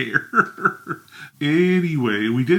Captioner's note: chuckles